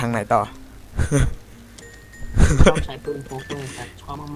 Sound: laughing

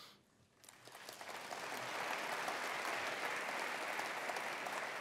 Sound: attendees applauding

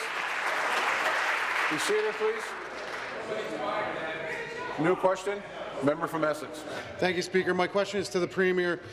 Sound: applause

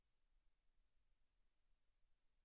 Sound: none

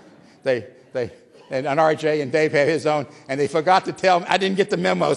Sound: laughter

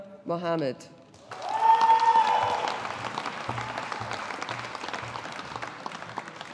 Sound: audience applauding

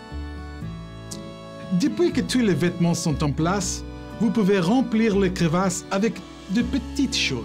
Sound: speaking French

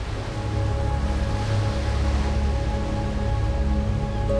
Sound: waves crashing

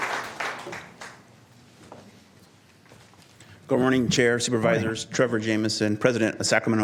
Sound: applause

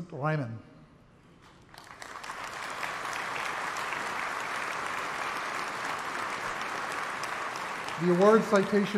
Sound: applause

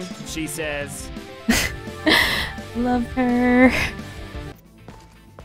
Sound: laugh

